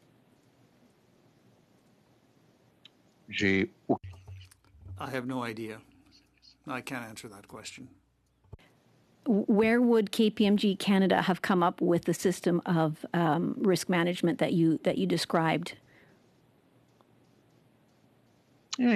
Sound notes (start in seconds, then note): 9.7 speaking French